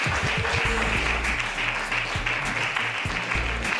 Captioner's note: applause